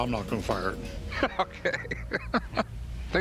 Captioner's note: laughs